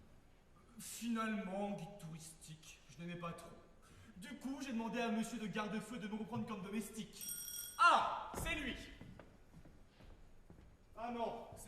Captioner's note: the doorbell rings